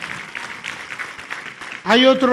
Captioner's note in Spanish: aplausos